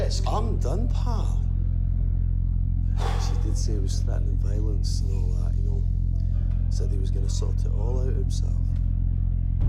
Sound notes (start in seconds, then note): 2.4 DC Marshall sighs